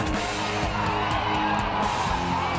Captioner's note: shouting